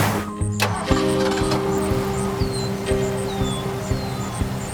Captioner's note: birds chirping, engine starting